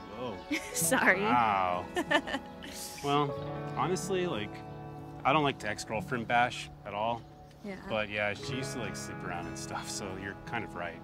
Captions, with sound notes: - Whoa. - (chuckles) Sorry. - Wow. (Keely laughs) Well, honestly, like, I don't like to ex-girlfriend bash, at all. But yeah, she used to sleep around and stuff, so you're kind of right.